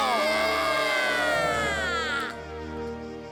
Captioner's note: crowd cheering and exulting